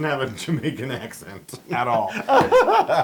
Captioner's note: laugh